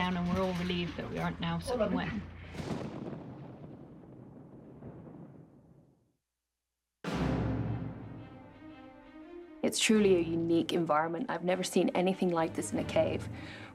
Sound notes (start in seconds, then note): 2.4 thunder roaring; 7.0 dramatic suspenseful music